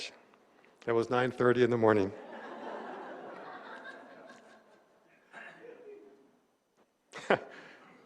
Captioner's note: laughter